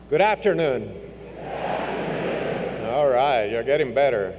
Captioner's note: crowd